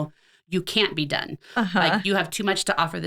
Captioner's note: laughing